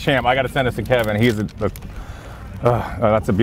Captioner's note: sighs